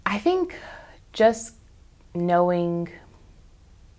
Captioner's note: none